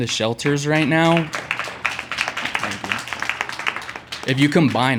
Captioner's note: clapping